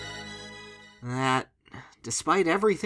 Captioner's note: sigh